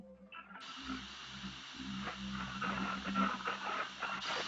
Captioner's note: radio static